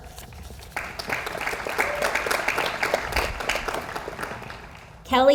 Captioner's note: audience applauds